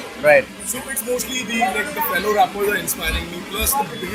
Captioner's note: foreign